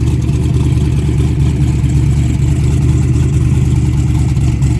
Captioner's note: car running